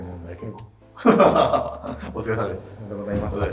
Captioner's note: laughing